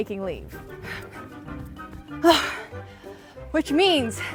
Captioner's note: panting